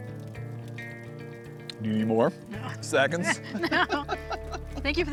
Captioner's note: laughs